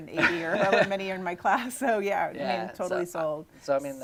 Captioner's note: laughing